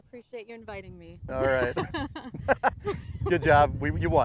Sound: laughs

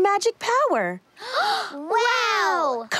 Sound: both gasp

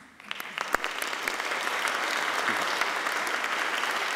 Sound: applauding

